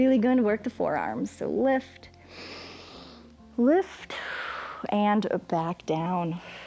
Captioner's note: inhales; exhales